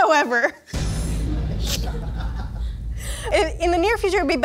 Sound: laughing

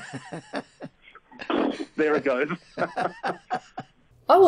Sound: laughs; blows raspberry; they laugh

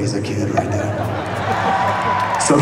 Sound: laughing

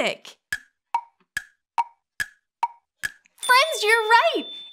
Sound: clock ticking

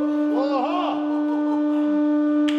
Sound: laughing

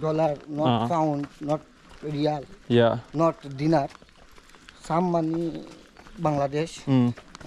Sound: speaking local language

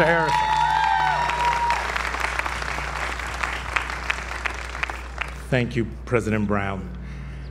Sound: applause

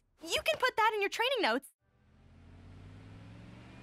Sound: none

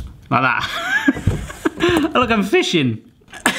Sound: giggling

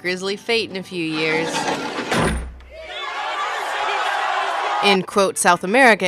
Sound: guillotine sound, cheering

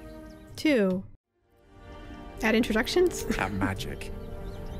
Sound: laughs

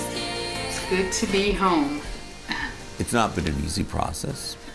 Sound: exhales

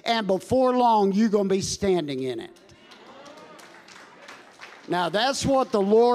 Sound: congregation applauding

